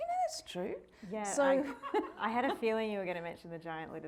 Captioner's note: audience laughing